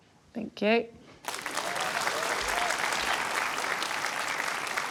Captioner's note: applause